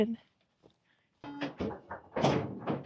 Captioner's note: skeeball thudding